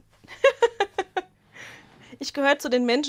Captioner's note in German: Gelächter